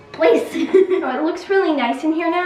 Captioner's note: giggles